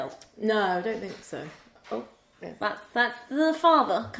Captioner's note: door opening